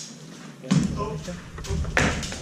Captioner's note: clunk